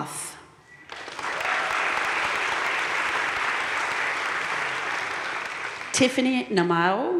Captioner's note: audience cheering and applauding